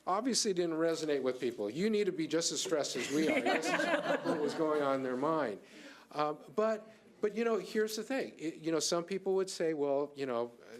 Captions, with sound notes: obviously didn't resonate with people. You need to be just as stressed as we are. (audience laughing) That's what was going on in their mind, but here's the thing, some people would say well,